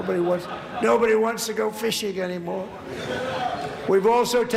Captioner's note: laughter